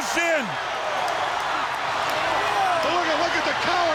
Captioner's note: crowd cheering